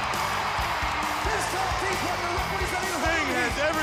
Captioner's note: crowd cheering